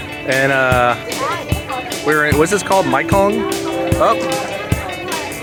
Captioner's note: bell tolls